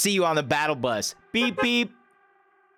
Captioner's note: beep Beep